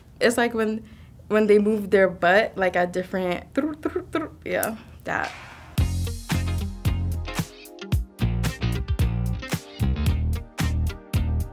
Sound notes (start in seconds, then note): 3.6 tongue trilling; 5.7 jazzy music